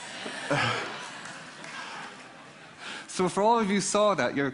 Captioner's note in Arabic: ضحك